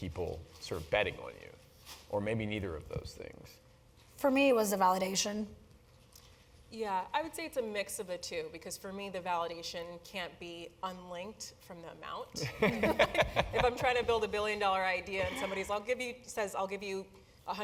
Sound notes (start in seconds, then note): 15.2 laugh